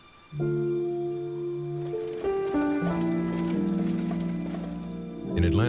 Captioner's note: rolling wagon